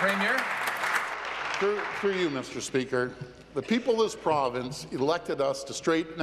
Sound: applause

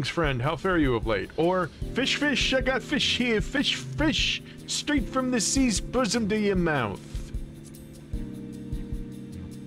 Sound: new York Accent

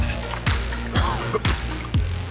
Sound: coughing

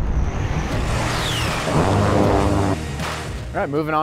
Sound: gun buzzing

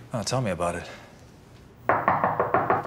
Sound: loud knocking

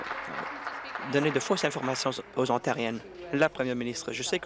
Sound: applause

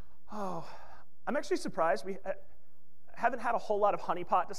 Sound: sighs

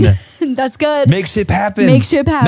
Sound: laughs

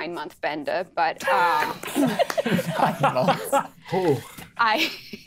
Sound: players laughing

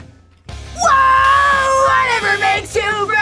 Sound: buzzer

